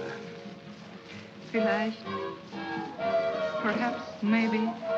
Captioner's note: speaks in German